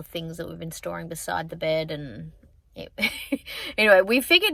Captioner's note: chuckles